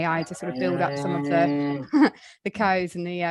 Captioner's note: cows mooing